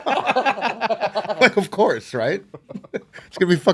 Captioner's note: laughing